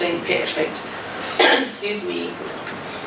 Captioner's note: cough